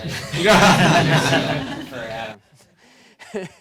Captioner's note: audience laughs